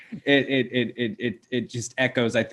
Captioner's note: stuttering